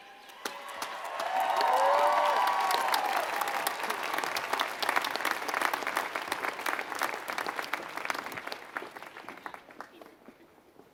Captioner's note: applause